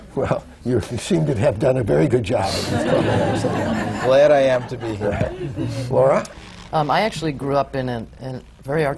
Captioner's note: laughter